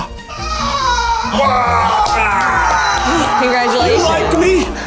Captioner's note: cheers